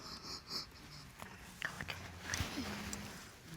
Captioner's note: sobbing quietly